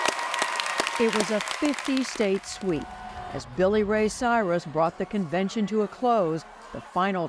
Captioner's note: applause